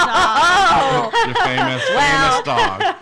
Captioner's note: laughing